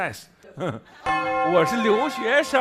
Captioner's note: heh heh